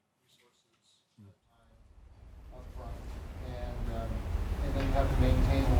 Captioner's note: speaks faintly